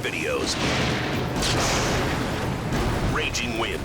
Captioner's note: thunder roars